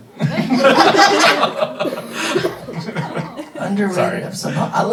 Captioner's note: everybody laughing